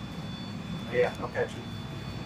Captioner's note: device ringing